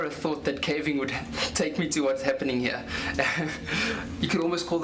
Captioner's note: laughs